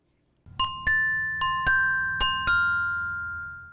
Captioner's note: bell chimes